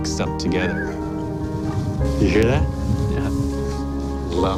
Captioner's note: coyote howls